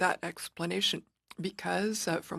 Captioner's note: speaking French